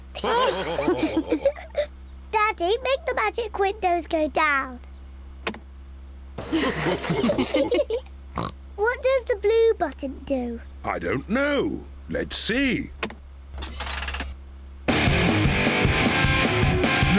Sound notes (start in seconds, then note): 0.1 all laughing; 6.4 all laughing; 8.3 oinks; 14.8 heavy rock music playing